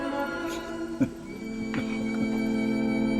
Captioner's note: chuckles